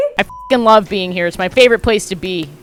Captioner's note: beep